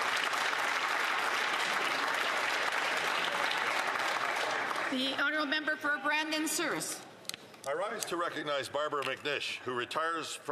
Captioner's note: some Applause